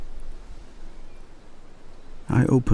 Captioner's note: wind and birdsong